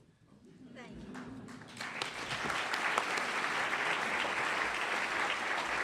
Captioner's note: applause